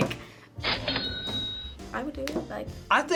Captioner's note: cash register chimes